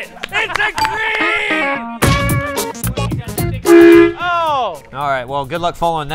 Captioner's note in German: horn blares